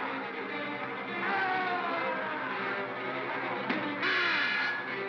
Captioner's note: suspenseful music; Bogeyman cries out; Bogeyman groans; clunk